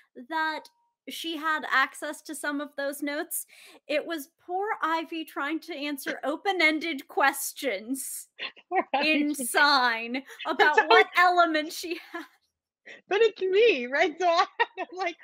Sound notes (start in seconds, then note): 8.8 Deborah laughing